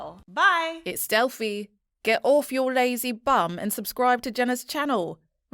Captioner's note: confident Female Voice